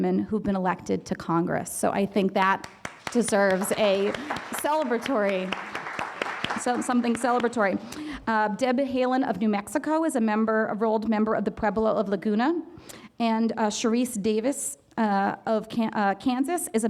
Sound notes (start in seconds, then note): 7.5 audience applause